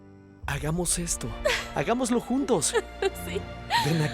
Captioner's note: Caridad solloza